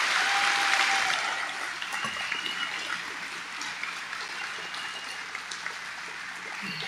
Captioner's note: audience applauding